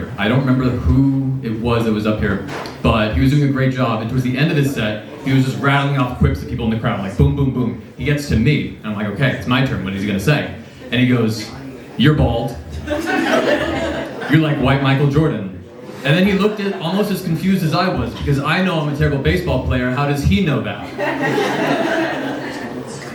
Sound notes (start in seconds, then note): 12.8 laughter; 20.8 laughs